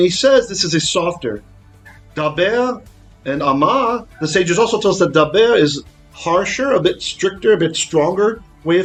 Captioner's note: Hebrew